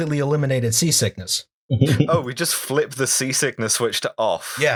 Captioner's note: laughter